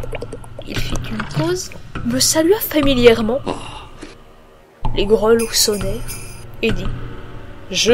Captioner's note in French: les grelots sonnèrent